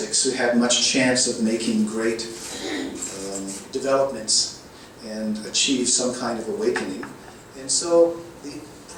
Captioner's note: audience clears throat